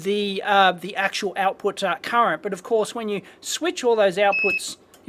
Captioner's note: beep